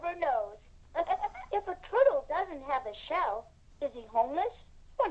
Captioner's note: laughs